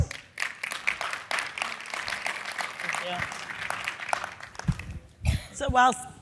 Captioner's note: applause